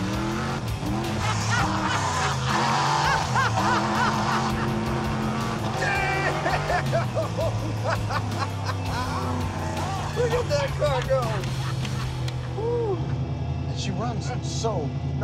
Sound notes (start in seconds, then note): 1.0 laughing